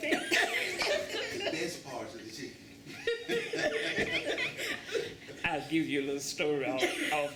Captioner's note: laughter